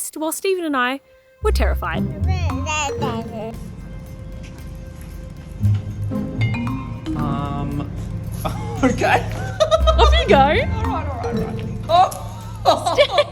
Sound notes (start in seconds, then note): 2.0 babbles; 6.6 bouncy xylophone music; 8.4 laughs